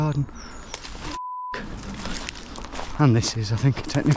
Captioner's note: beeping